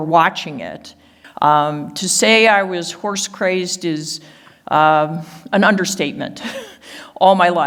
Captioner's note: laughs